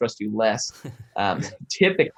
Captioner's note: chuckles